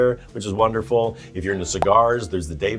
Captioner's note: graphic pops